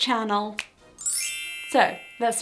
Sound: quick ding

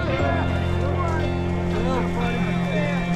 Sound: people chattering

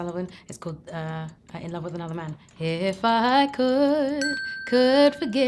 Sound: chiming ding

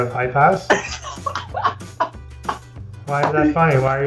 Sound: laughs

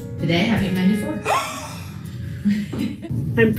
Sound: gasps

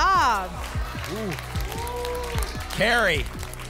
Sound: applause and cheering

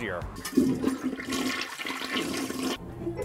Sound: toilet Flushing

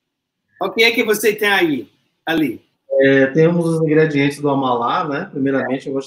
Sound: speaks portuguese

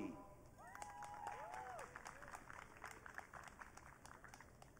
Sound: audience cheering

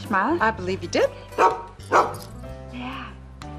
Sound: barking

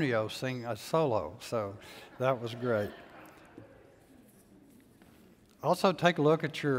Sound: congregation laughs

